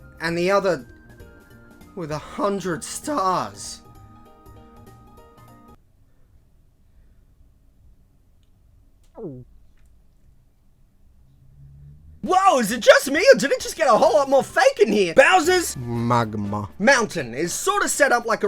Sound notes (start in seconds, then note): 9.1 gulp